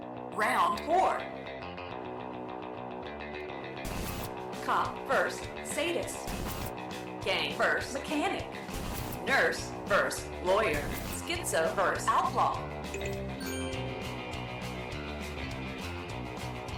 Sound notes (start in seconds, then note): 12.9 ding, chime